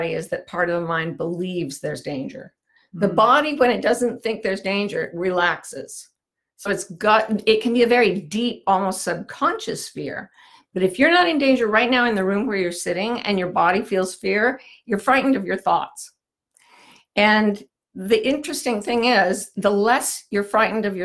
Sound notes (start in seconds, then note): none